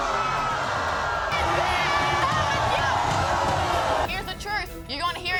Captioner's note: audience groans; audience boo's